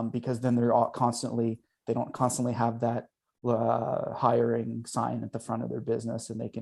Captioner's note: none